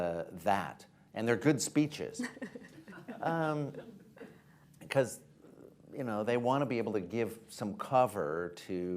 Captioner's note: laughter